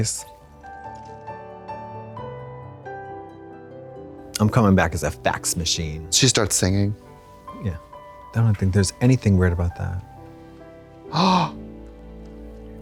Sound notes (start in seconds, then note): 0.3 soft piano music; 11.1 Trixie gasps